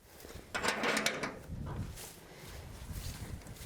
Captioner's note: door clanging